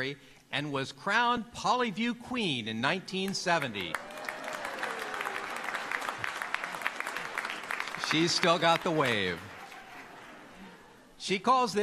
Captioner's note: applause